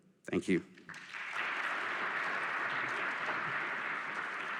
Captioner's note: applause